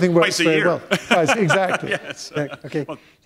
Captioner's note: chuckle